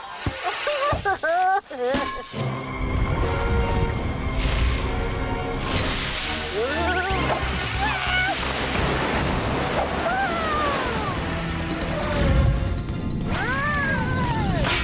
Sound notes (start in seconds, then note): 0.4 Whizzmo laughing; 2.1 Whizzmo exclaiming; 2.1 suspenseful music